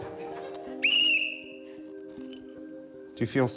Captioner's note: blows whistle